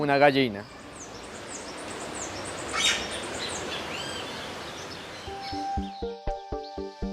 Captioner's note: sonidos silvestres